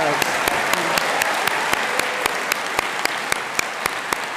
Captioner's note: audience applauding